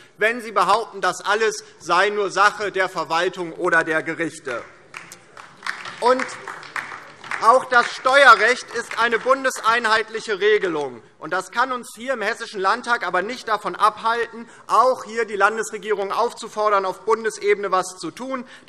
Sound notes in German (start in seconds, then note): 4.4 Beifall DIE LINKE